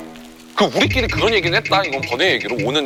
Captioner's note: Scratch